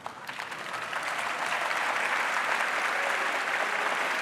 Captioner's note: audience applauding